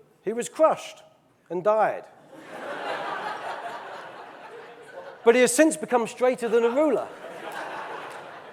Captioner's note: audience laughing; audience laughing, clapping